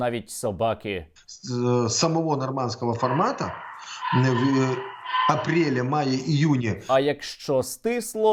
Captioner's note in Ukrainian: чутно гавкіт